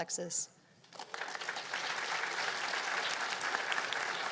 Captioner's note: applause